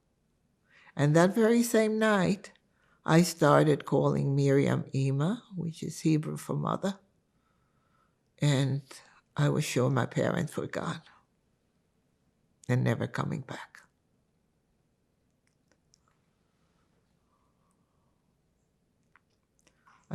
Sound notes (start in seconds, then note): 4.9 hebrew